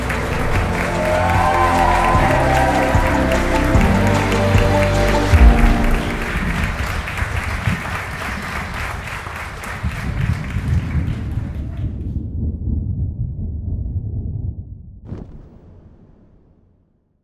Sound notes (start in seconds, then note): 0.1 congregation clapping; 4.3 uplifting music; 9.2 thunder rumbling